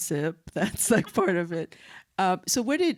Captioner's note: laughs